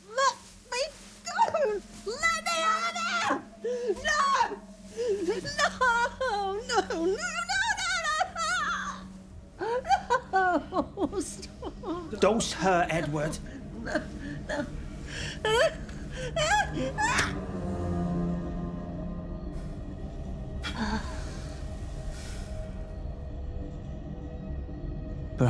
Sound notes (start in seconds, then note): 10.1 sobbing; 16.3 screaming; 17.0 brooding music continues; 17.0 syringe rasping; 20.6 Sarah exhales; 20.7 brooding music continues